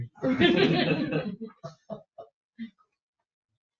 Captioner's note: all laughing